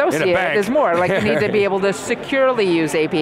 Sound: laughing

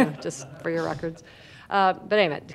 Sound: laughter

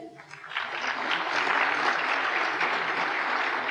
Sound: applause

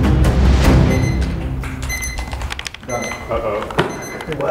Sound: dramatic music; timer sounding

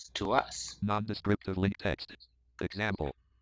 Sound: screen reader voice

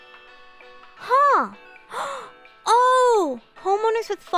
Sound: gasp

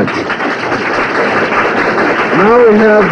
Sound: aplause

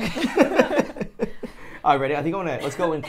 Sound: laugh

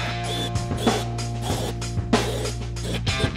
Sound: light knocking; drill revving

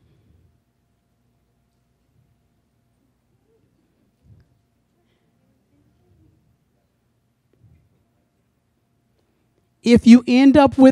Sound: silence

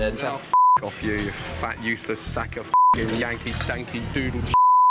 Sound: beep

